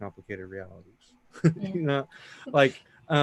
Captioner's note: chuckling